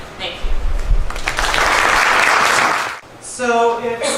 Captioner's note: applause